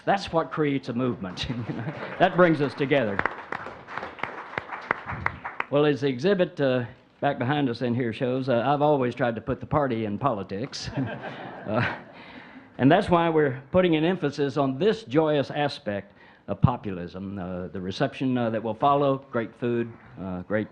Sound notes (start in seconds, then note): 3.5 audience clapping; 10.6 audience chuckling